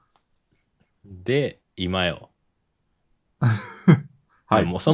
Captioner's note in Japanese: 笑い